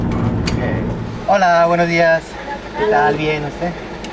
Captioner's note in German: auf Spanisch